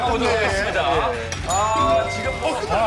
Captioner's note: end bell rings?